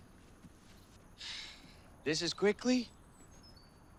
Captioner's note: sighs